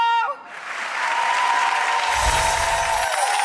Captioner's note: audience applauding